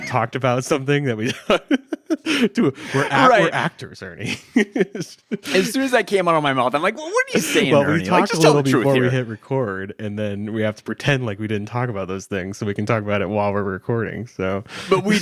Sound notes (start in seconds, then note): 1.2 laughs; 4.9 laughs